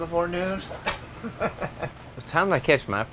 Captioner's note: laughs